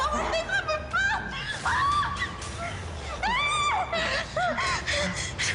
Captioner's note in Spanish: Gritos